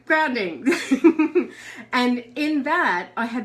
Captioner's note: laughs